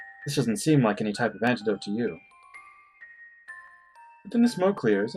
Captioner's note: none